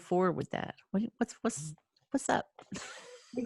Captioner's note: laughing